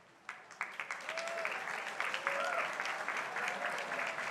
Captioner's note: crowd applauding